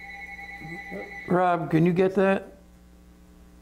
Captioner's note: phone ringing